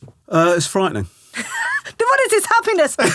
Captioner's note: laughing